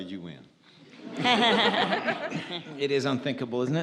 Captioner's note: audience laughs